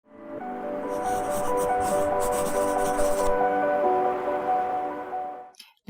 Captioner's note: gentle music; pencil scribbles